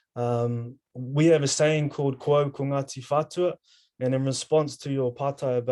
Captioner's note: speaking in foreign language